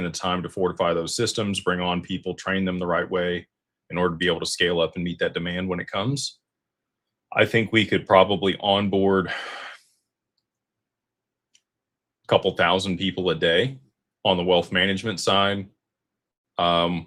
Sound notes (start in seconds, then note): 9.2 sighs